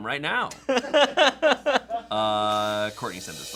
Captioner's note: laughing